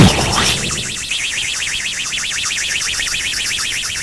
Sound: explosion; rocket engine

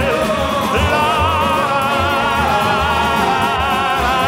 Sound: vocalizing

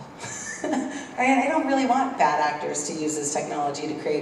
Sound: laugh

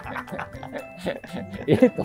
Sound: laughing

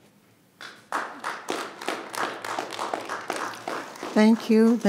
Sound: attendees applauding

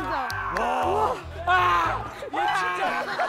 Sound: screaming

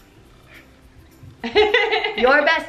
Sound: laughs

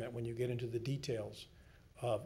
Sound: none

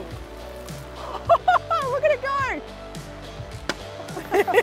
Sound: laughs; laughter

